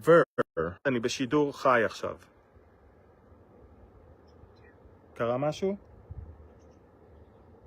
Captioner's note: talking to someone in Hebrew